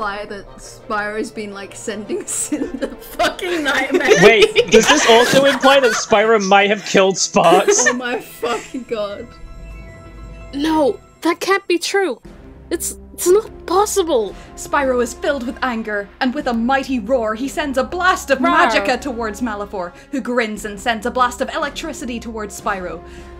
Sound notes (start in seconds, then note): 7.4 laughter